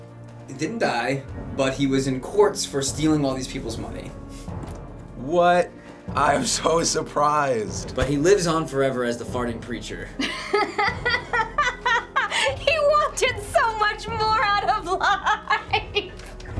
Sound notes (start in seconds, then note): 4.8 sarcastically; 10.2 laughing boisterously